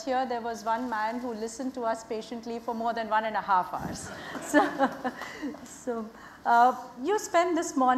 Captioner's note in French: rires